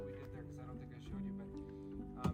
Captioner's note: hammering